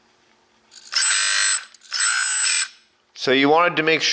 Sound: high pitch whirring

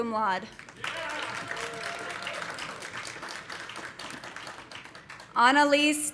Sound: audience applauding

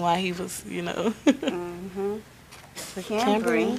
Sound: laughs

